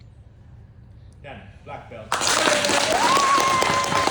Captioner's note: applause